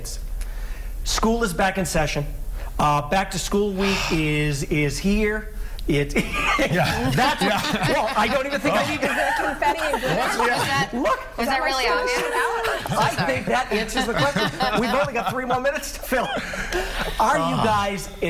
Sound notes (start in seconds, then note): 9.8 sighing; 14.3 laughter